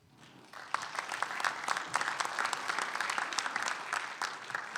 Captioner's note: audience applauding